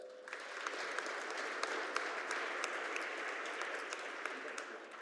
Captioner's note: audience applauding